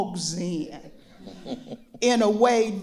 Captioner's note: others chuckle